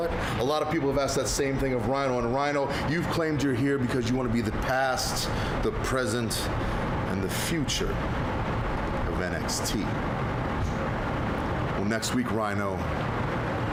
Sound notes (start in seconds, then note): none